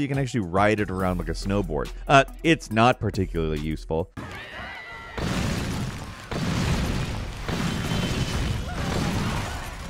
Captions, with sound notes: you can actually ride it around like a snowboard. It's not particularly useful. (people screaming) (metal smashing)